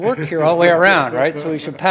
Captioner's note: laughing